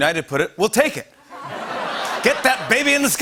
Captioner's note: laughter